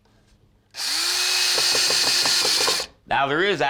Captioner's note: drilling